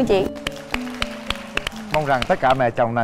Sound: applause

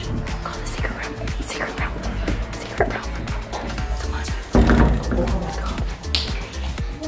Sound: whispering

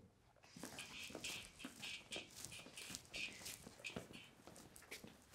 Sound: footsteps clicking on floor

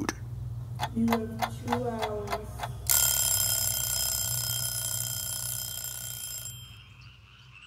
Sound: clock ticking

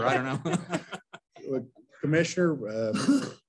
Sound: laughter

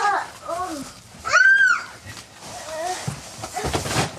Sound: groaning

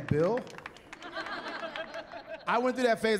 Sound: chuckling

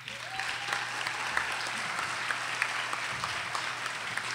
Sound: audience applauding

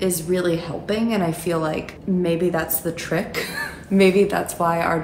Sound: giggles

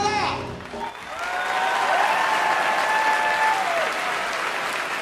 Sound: applause

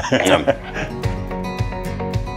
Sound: he laughs; upbeat music

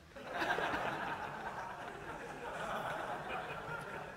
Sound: laughter

